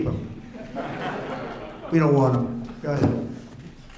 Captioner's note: laughter